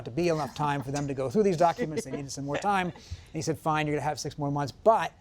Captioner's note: laughter